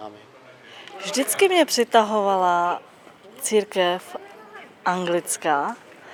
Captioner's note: speaks in own language